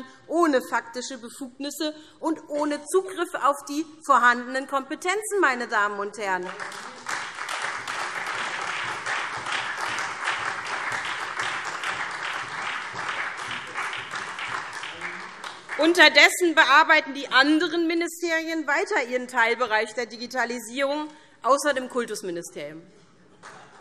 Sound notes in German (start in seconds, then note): 6.2 Beifall SPD und Freie Demokraten